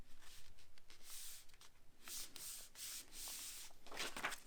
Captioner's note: paper rustling